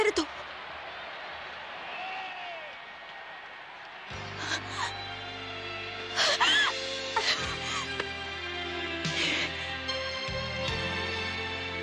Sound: applause

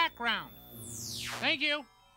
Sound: technology warbling

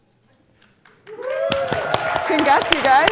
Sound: applause

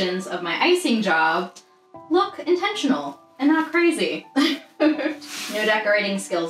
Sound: laughs

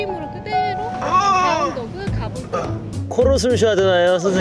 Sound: sound of a rusty door opening

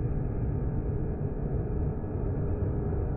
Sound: none

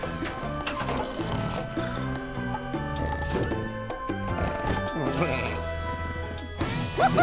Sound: snoring

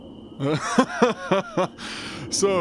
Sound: laugh

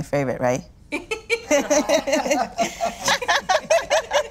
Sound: laughter

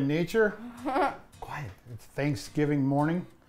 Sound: girl snickers

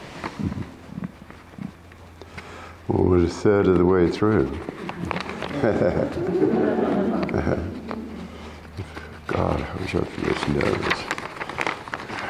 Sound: laughter

